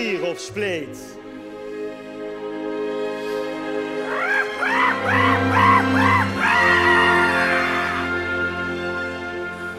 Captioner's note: starts roaring like a giant monkey